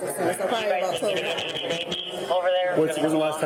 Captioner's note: radio chatter